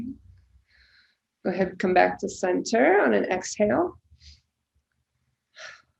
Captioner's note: breathing deeply